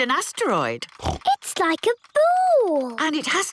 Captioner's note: snorts